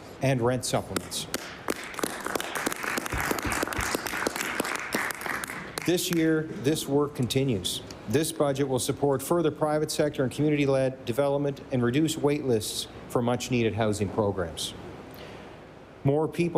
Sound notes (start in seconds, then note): 7.2 applause